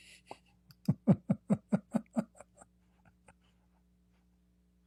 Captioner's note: Ketawa